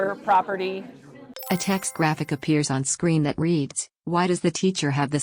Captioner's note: chime